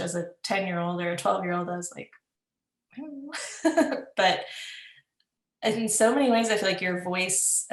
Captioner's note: laughs